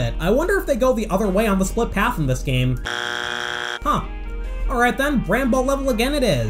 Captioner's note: bzzzt